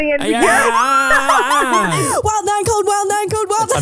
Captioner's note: laughing